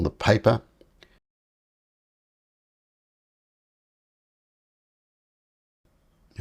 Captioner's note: silence